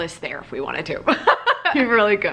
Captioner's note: laughing